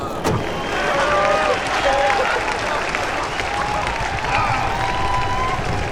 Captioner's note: מחיאות כפיים; צורח